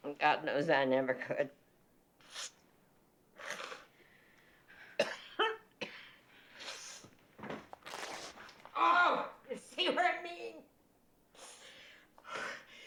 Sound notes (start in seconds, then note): 4.9 coughing; 7.7 cloth rips